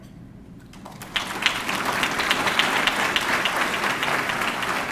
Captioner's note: audience clapping